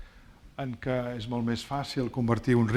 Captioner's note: speaking spanish